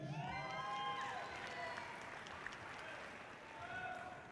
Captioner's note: audience cheering loudly